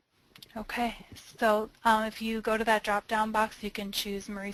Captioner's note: voiceover